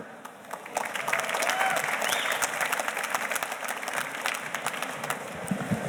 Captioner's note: audience applauding